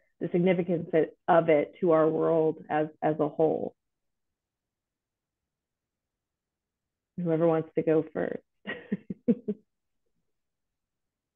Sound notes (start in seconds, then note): 8.7 chuckles